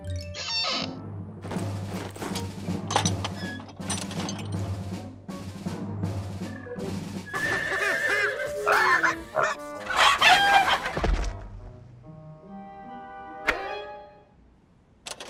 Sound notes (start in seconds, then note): 7.2 bangs, neighs; 7.3 bang, horse neighs